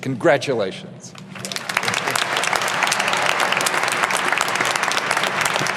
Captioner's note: audience applauding